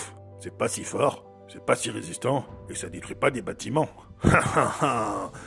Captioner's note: laugh